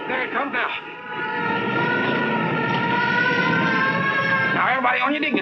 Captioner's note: sirens blaring